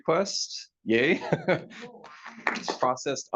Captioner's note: audience clapping